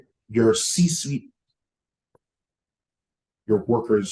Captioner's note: audio cuts out